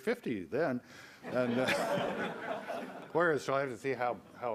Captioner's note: audience laughs